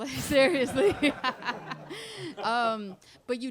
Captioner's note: laughter